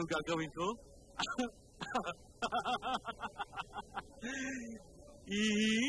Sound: laughs

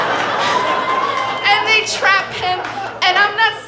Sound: audience laughing

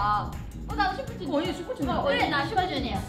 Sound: speaks in Korean

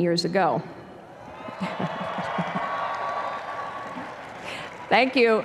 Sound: cheering

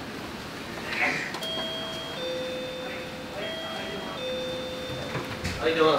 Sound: sound of door bell

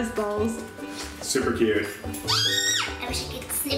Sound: squeak

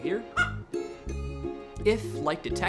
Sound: chicken clucks

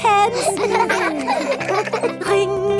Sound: giggling

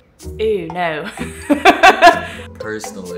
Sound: laughing

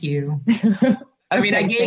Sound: laughs

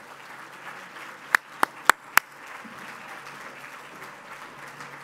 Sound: applause

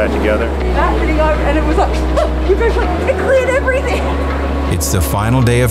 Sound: laughing

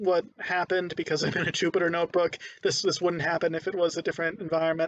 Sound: laughing

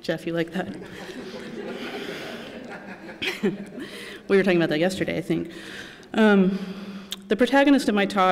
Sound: laughter

